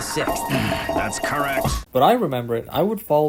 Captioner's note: groans